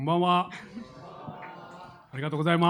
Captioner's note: crowd